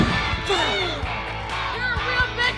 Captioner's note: thud; grunting sound